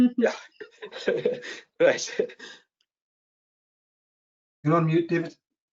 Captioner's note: chuckles